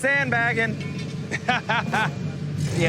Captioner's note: richard laughs